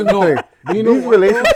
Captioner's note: laughing